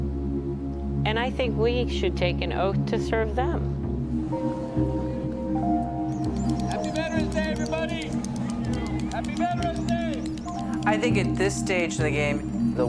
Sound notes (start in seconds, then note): 6.7 people chattering